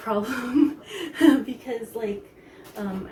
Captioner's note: laughs